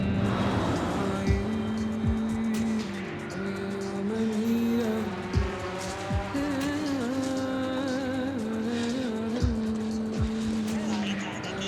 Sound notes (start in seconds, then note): 0.2 humming continues; 4.3 drone buzzes